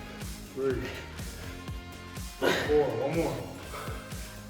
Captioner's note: grunting